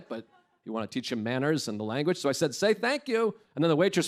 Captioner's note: none